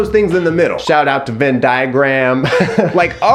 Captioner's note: laughs